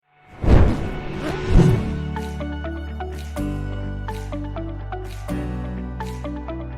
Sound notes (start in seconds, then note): 0.3 logo whooshes; 0.5 upbeat music